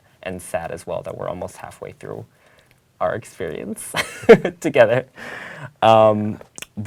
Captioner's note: laugh